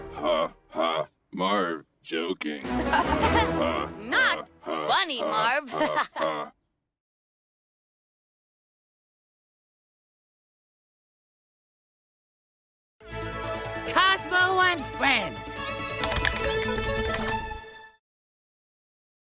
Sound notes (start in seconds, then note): 2.7 Codi and Marv laugh; 4.6 Cozmo laughing